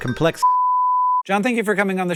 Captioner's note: beeeeep